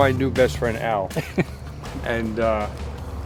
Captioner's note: laughs